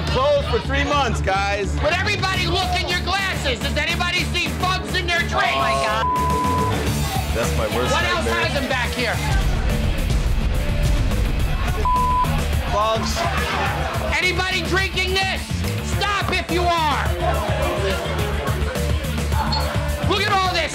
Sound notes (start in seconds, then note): 5.4 beep; 9.2 intense music; 11.8 beep; 17.6 intense music